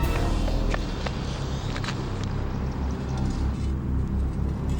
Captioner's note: footsteps thudding